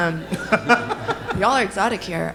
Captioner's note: audience laughing